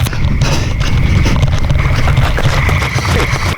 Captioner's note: heavy breathing